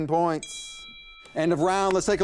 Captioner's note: bell ringing